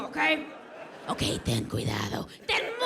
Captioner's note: audience laughs